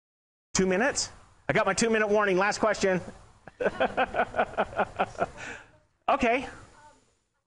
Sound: laughing

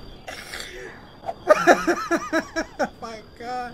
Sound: laughs

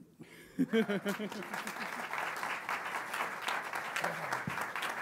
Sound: audience applauds

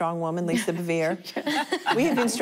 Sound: laughing

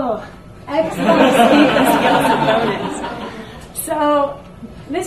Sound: audience laughs

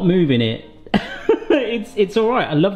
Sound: laughing

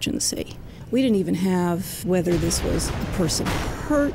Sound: sound of explosion

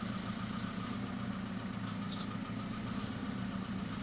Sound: motor humming

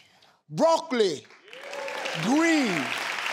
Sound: clapping

